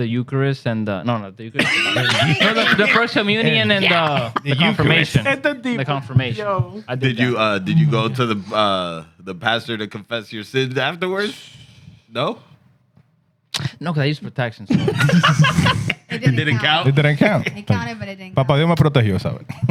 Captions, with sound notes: Eucharist, and the, no, no. (Laughing) The first communion and the confirmation. The confirmation. Yo. Did you go to the pastor to confess your sins afterwards? No? No, because I used to put taxes on it. (Laughing) It didn't count? It didn't count. It counted, but it didn't count. Papa, you're gonna put a (Speaking In Foreign Language)